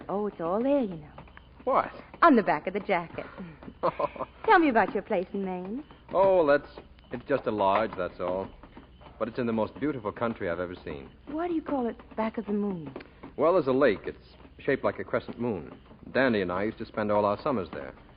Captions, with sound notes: Oh, it's all there, you know. What? On the back of the jacket. (laughing) Tell me about your place in Maine. Oh, that's, it's just a lodge, that's all. But it's in the most beautiful country I've ever seen. Why do you call it Back of the Moon? Well, as a lake, it's shaped like a crescent moon. Danny and I used to spend all our summers there.